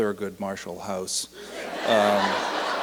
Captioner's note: laughter and applause